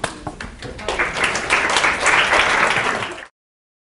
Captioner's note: clapping